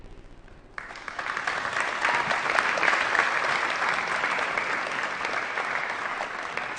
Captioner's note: applause